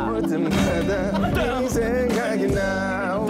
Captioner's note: failed to hold in laughter